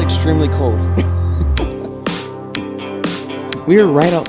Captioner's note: chuckles